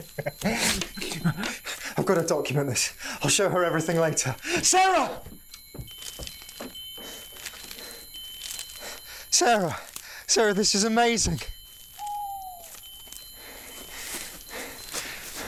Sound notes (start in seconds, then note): 6.7 chimes ringing; 11.9 owl hooting